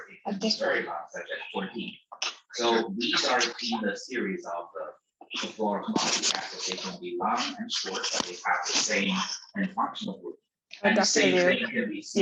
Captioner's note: audio interference